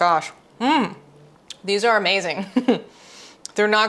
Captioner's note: chuckle